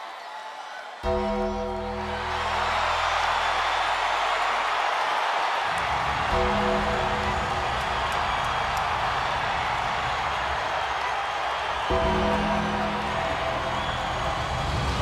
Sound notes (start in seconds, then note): 0.8 crowd cheering; 0.8 upbeat music